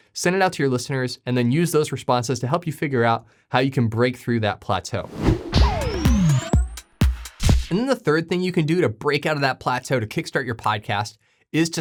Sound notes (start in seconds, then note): 5.0 graphic whooshing; 5.1 upbeat music